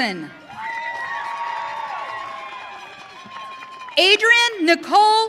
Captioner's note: audience cheering